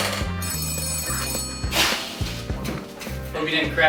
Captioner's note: phone ringing